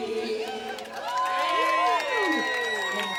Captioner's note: cheers and applause